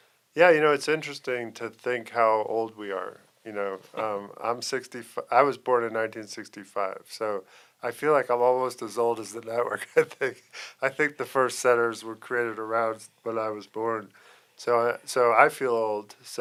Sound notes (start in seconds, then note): 9.6 laughing